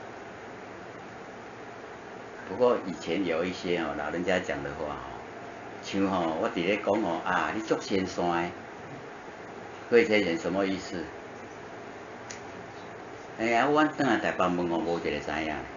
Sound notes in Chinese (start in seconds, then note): 7.6 台語